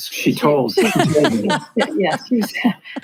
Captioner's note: laughs